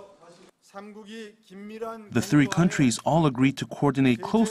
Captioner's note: Korean